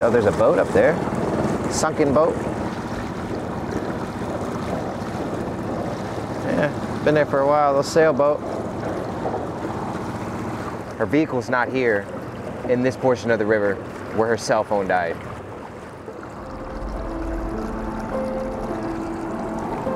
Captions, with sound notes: Oh, there's a boat up there, sunken boat. (water splashing) (boat engine revving) Been there for a while, a sailboat. Her vehicle's not here in this portion of the river where her cell phone died. (somber music)